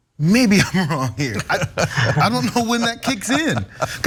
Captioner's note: laugh